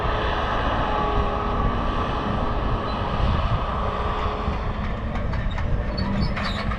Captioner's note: tractor sound